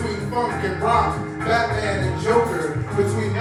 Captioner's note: Arabic